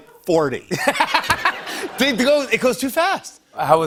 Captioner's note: laughter